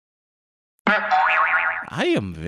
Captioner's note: stock cartoon sound effect